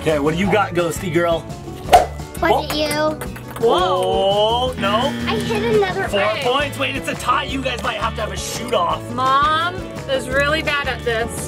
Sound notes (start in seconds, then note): 2.0 eyeball whooshing; 2.7 eyeballs clicking; 4.8 buzzer dinging